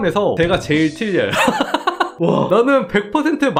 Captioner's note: laughing